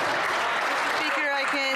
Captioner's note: some Applause